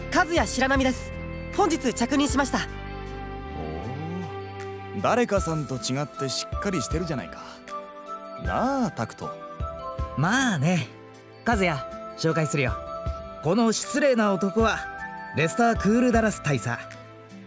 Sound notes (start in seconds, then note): 3.8 impressed hum